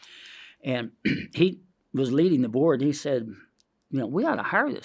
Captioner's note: inhales